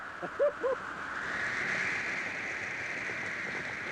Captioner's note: wind howling; chuckles